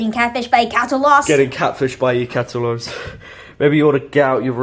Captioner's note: sigh